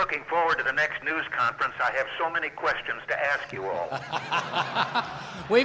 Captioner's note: laughter